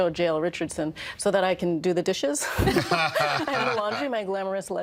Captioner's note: all laughing